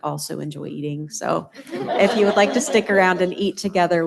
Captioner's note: laughter